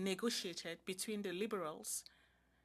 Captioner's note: speaking French